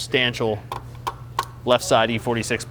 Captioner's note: metal thumping